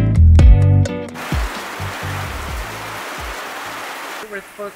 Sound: sound of heavy rain

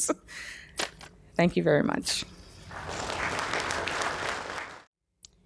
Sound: applause

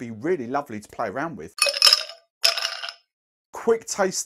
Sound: ice shakes

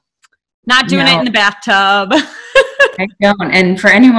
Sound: laughing

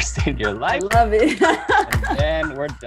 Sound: laughs

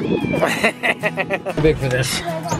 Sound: laughing

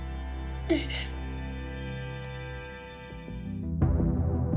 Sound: crying

